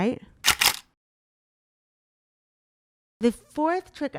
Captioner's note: camera shuttering